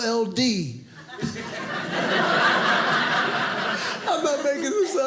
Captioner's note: audience laughing